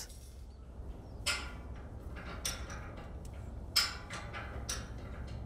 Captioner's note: pulley cranking